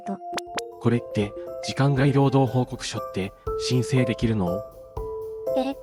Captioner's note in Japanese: 瞬きの音